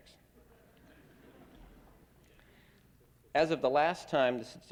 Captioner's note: laughter